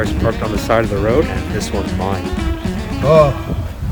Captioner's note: ㅋㅋ